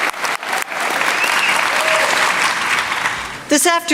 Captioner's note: applause